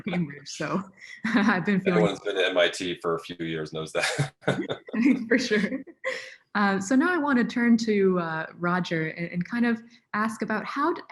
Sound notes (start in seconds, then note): 4.6 laughs